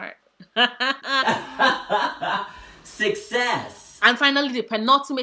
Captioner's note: laughs; laughs. success!